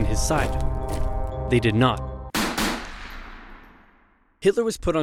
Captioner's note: gun Shots